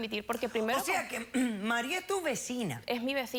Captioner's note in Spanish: carraspea